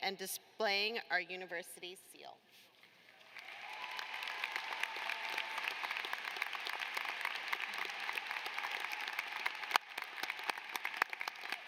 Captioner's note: cheers and applause